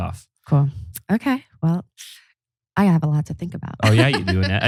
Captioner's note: laughs